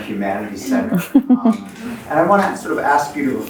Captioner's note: chuckles